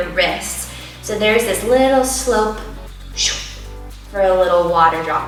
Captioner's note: whooshing